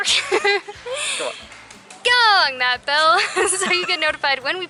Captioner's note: laughter